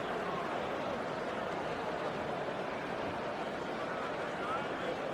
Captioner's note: crowd Noises